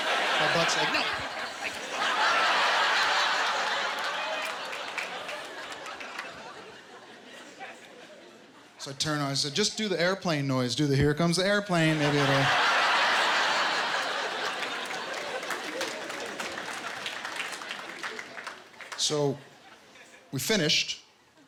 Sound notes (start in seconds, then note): 12.7 laughter, applause